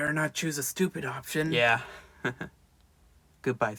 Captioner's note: laughs